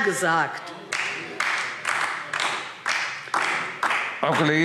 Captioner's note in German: Beifall DIE LINKE